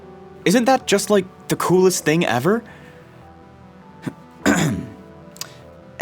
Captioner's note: ahem